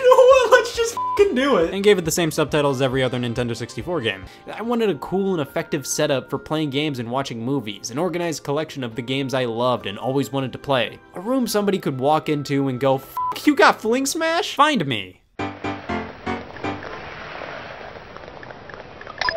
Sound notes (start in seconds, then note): 0.9 beep; 13.2 beep